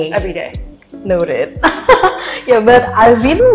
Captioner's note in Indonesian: terkekeh